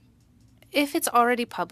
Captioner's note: speaking French